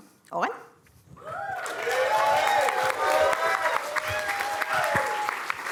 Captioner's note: cheering, applause